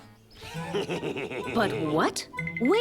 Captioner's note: wolf laughs